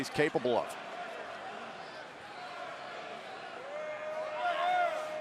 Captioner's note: crowd chatter